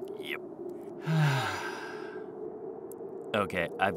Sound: both sigh

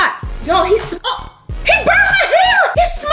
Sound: gasps

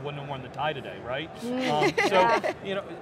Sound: all laughing

